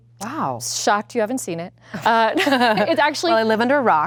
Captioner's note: laughs